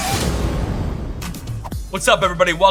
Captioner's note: boom resonating